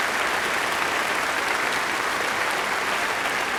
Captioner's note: applause